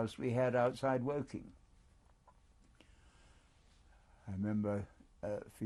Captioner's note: pauses for 3 seconds